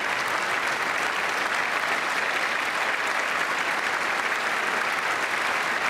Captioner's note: applause